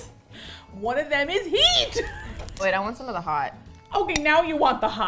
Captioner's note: laughs